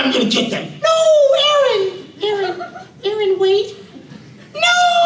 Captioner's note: high-pitched voice